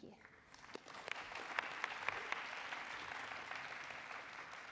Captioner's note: applause